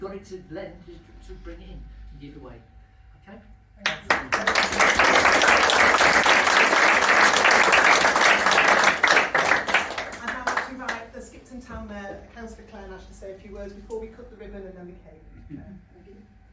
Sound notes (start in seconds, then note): 3.8 round of applause